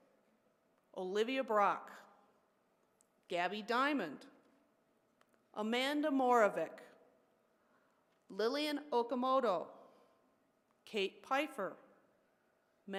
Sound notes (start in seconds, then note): none